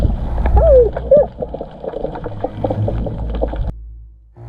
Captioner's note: underwater gargling